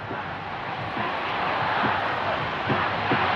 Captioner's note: thudding, chanting